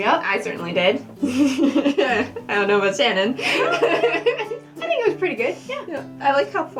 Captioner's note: laughter